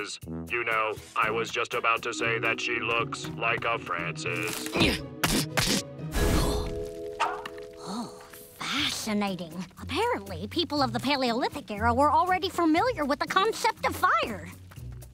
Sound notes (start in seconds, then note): 6.2 gasps